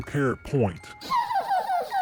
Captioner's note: giggles